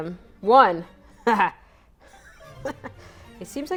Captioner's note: laughs